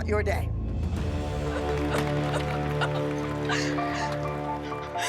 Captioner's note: sobs